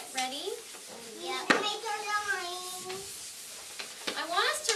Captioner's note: children chatting